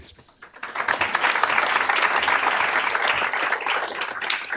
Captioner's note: applause